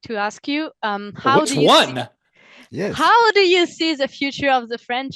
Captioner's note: translating from French